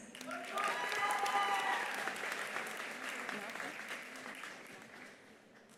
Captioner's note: attendees applauding; attendees cheering